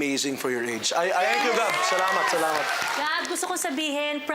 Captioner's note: cheering, applause